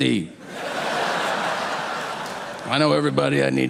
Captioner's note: audience laughing